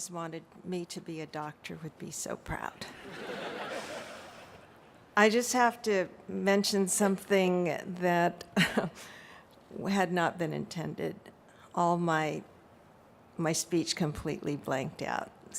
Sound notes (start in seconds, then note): 4.6 laughter